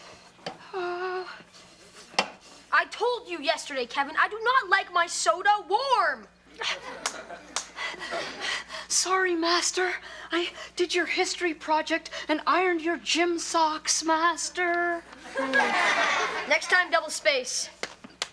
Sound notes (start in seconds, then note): 1.1 Kevin whimpers; 7.5 Kevin slapping face; 7.7 breathing heavily; 15.2 audience laughs